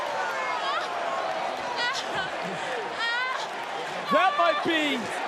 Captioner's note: yelling